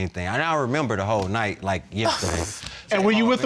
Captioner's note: sighs in frustration